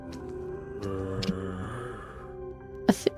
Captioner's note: distant zombie growl